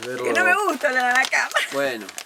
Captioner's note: laughs